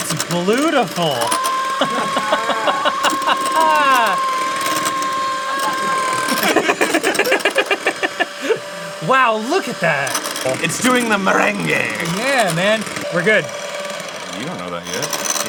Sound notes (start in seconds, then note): 1.6 is blown away in a high pitched tone; 6.5 comraderous laughter